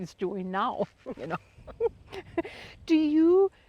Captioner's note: both chuckling